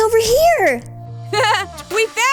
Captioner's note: chuckles